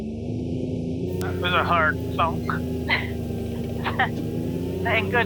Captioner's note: chuckles